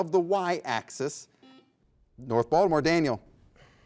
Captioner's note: buzzer beeps